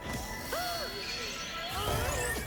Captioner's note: gasp